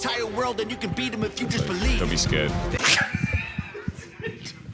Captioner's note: laughs